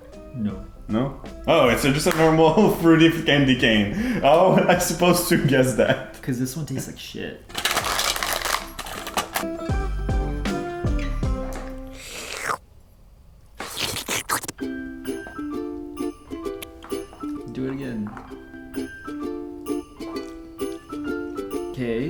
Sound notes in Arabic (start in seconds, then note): 9.6 ترانيم عيد الميلاد; 12.2 أصوات لعق; 15.4 ترانيم عيد الميلاد